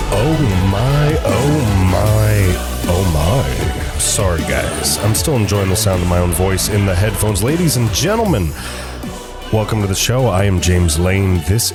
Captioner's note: excited